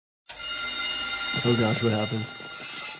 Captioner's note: alarm ringing